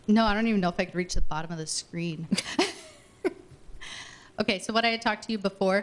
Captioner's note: laughing